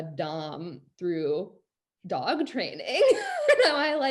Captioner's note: laughs